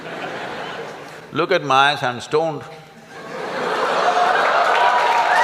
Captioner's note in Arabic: ضحك وتصفيق